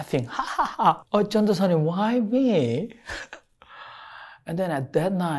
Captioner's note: laughs